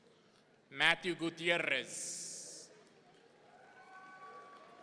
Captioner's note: audience cheering